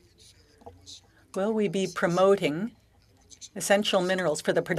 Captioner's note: speaking French